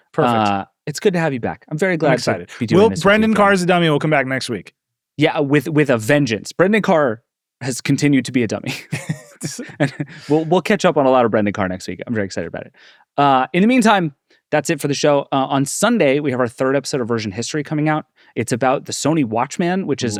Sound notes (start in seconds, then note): 8.6 laugh